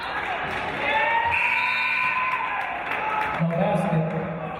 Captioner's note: referee's whistle; buzzer